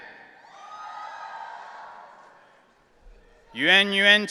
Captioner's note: audience cheering